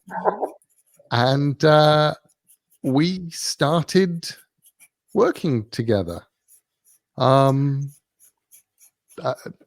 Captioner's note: laugh